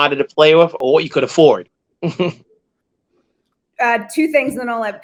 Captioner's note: chuckles